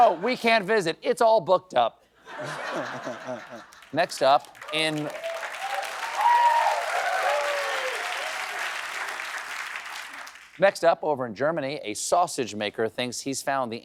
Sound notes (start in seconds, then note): 8.5 applause